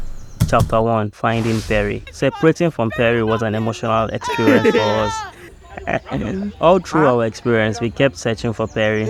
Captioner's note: laughs